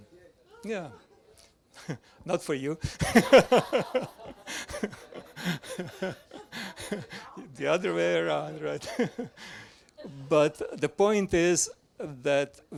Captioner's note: laughs